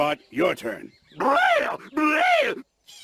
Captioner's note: weird animal noises